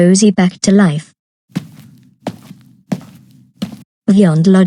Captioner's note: footsteps